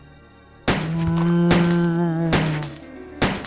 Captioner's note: gunshots